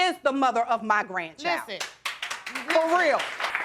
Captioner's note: audience applauding